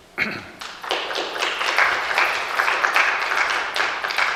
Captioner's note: clapping